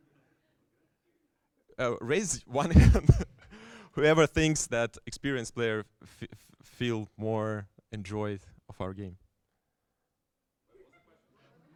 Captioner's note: chuckles